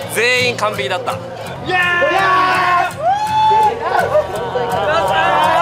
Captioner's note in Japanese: 歓喜